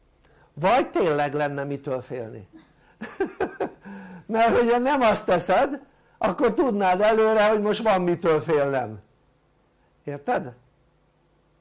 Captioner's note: laughter